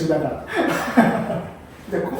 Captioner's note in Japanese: 爆笑